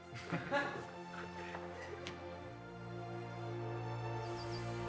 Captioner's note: Todd chuckles; Jordyn laughs; whimsical music